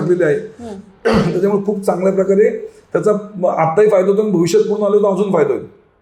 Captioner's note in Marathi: घसा साफ करणे